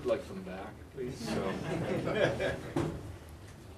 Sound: laughter

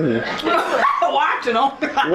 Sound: laughs loudly

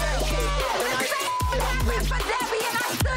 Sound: beep

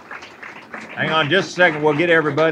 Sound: applause

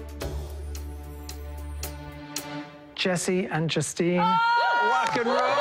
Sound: cheering; cheers and applause

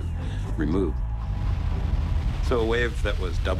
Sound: water crashing

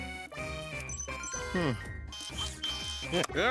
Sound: chiming; whirring; chuckling

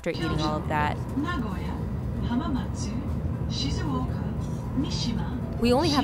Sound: announcer speaking in Japanese

